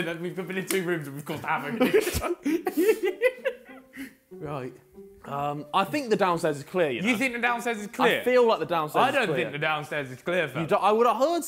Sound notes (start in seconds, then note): 1.7 laughs